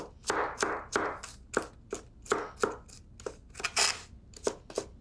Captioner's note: knife chopping